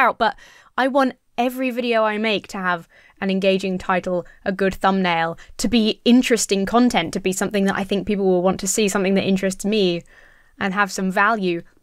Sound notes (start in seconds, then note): none